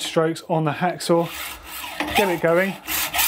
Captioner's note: sawing